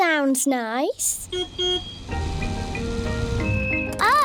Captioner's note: car horn beeps